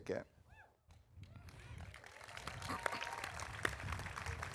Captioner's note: audience applauding